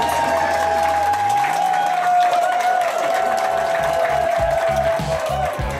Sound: crowd clapping and cheering

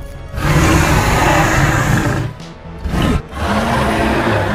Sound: albertosaurus roaring

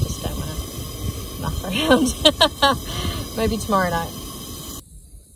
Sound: laughs

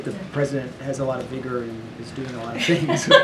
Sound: laughter

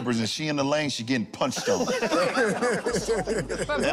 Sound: laughter

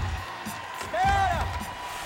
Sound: shouting

